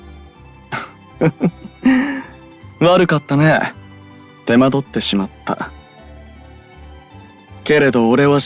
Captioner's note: laugh